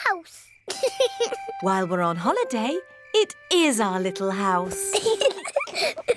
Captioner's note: george laughs; both laugh